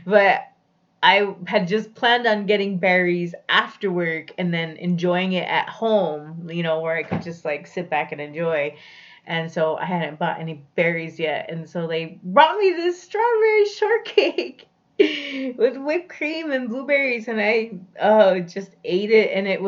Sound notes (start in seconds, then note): none